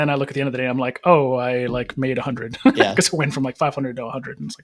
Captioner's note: chuckles